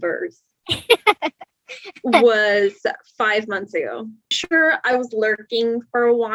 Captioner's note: laughs